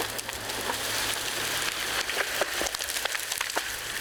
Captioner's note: branches creaking